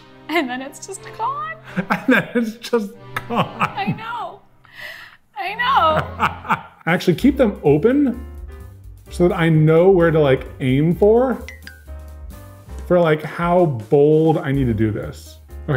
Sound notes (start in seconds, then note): 0.0 dramatic music; 5.6 laughs